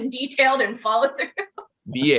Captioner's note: laughing